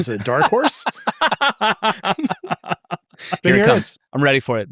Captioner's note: laughing